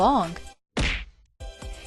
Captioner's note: punch sound effect